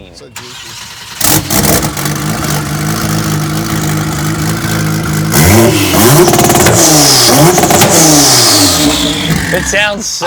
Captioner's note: engine revving